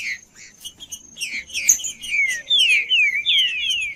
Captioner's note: trinca ferro cantando